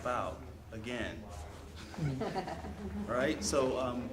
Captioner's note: audience laughs